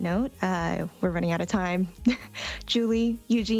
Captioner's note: chuckles